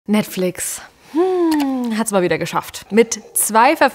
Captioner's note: sigh